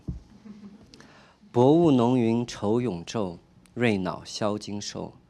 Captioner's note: speaking chinese